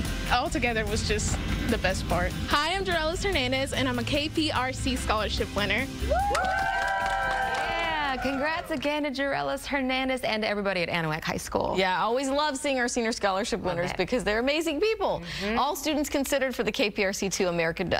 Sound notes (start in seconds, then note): 9.3 cheers and applause